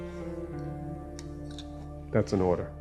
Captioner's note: metal scraping